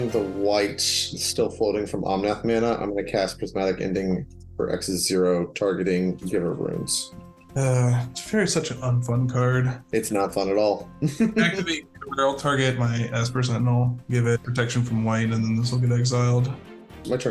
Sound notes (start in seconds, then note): 11.0 laughs